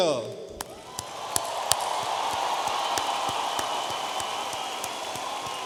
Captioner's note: audience applauding